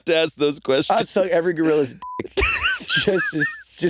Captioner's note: beeping